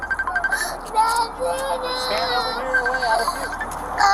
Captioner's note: child crying